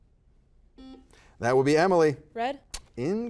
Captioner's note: buzzer buzzes